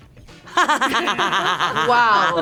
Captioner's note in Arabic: تضحك